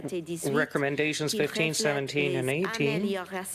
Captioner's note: speaking French